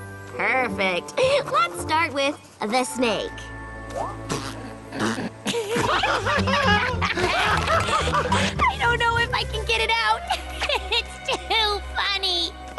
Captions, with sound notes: Perfect. Let's start with, "The Snake." [raucous laughter] I don't know if I can get it out! It's too funny!